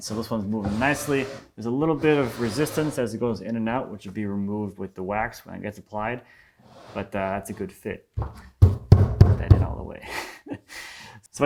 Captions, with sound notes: So, this one's movin' nicely. There's a little bit of resistance, as it goes in and out, which would be removed with the wax, when it gets applied. But, that's a good fit. (fist on drawers thumping) Get that in, all the way. (chuckling)